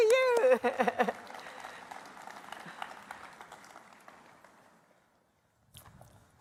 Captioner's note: applause